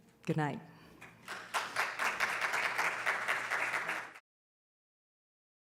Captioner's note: audience applauding